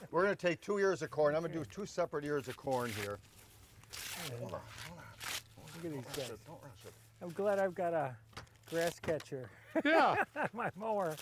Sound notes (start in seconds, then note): 3.7 corn shucking